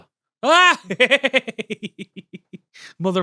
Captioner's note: giggles